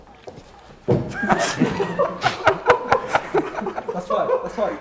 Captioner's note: laughter